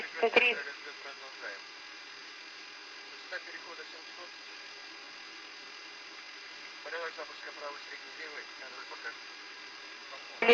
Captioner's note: engines